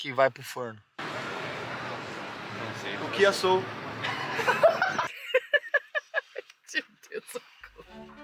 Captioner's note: laughs